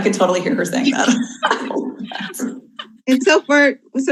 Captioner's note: group laughs